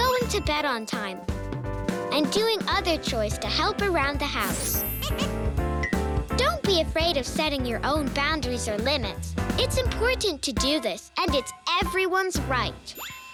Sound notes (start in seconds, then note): 4.4 tinkling